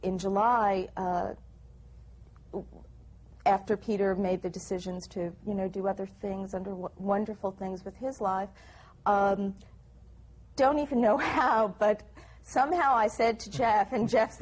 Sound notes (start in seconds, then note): 11.2 laughs